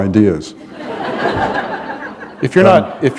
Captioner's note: laughter